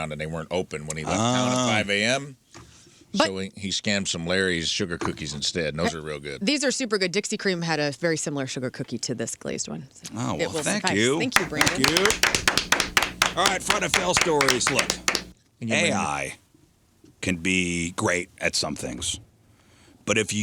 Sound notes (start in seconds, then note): 11.3 applause